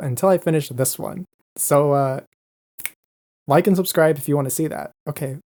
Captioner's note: snaps fingers